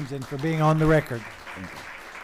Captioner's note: applause